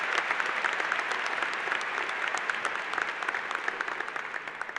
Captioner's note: applause